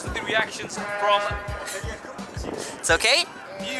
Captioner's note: horn honking